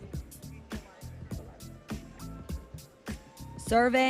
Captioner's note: students chattering